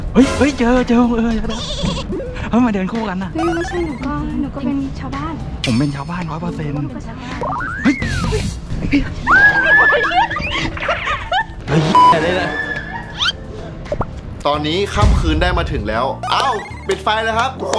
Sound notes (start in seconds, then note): 0.0 pat; 5.8 pat; 9.2 screams